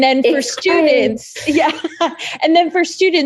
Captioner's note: laughing